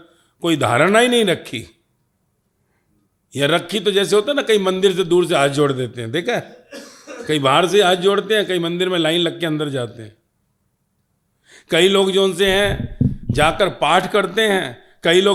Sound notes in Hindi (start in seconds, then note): 6.8 हंसी